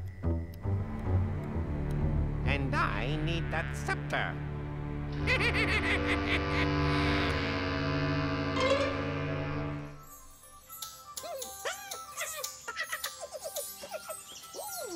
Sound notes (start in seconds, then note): 5.2 evil chuckle; 11.6 laughs excitedly